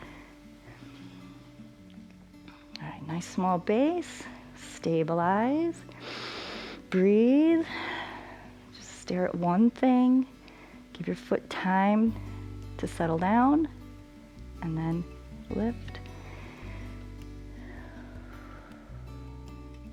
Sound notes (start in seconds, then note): 5.9 exhales; 5.9 inhales; 17.4 inhales and exhales